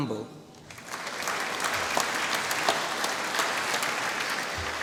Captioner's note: applause